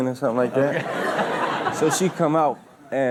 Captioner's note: audience laughs